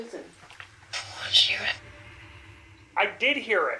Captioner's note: box whispers